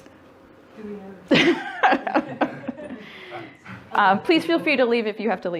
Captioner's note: laughing